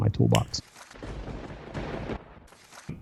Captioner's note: thunder crashing